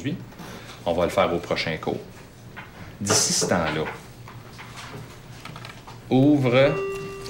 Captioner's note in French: sonnerie de fin de cours